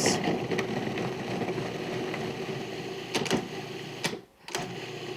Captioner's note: food processor whirring